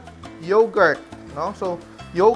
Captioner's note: sizzle